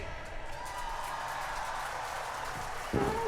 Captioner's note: cheering